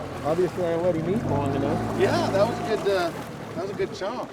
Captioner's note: boat engine running